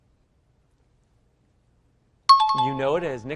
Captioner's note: timer bell rings